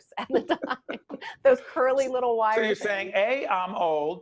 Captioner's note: laughing